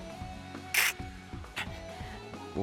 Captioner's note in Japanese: 努力の音